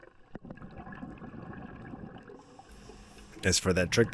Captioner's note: water Sounds